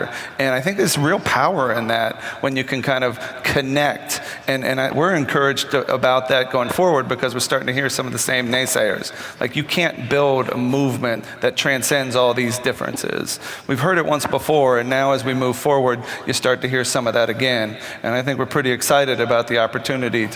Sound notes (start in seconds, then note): none